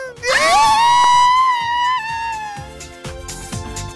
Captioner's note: both screaming; bright upbeat music